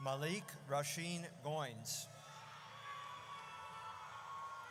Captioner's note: audience cheers